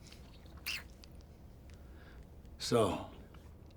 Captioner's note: licks fingers